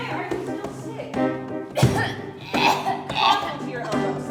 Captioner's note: coughs into the air some more